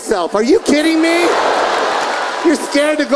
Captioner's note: audience laughing